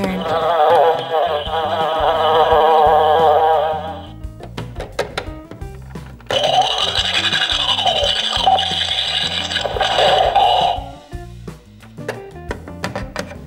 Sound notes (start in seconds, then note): 0.2 the buzzing of flies can be heard coming from the WC; 6.3 the sound of brushing teeth can be heard coming from the bathroom